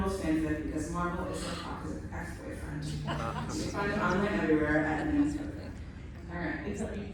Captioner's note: laughter